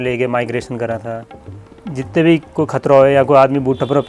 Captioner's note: continued Gujjari speech